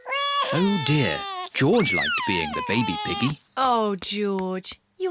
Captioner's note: bawls